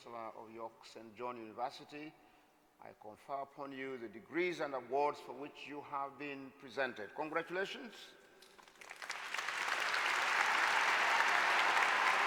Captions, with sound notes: By the authority invested in me as Chancellor of York St John University, I confer upon you the degrees and awards for which you have been presented. Congratulations. (Applause)